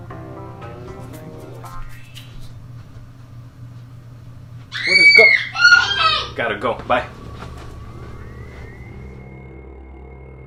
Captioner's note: girl screaming